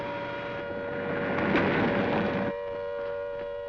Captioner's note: siren continues